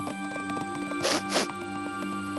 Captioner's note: sniff sniff